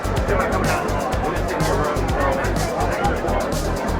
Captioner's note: crowd chattering